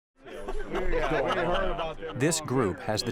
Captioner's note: laughing